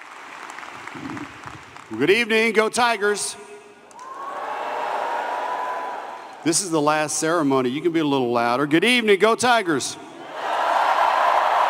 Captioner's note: applause